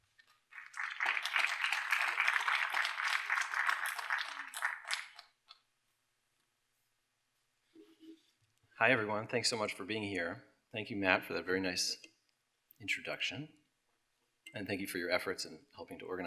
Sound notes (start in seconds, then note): 0.4 applause